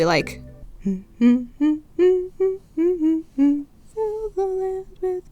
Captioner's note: Humming Ganondorf, "All I want for Christmas is You" cover